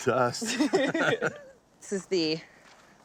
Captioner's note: both laughing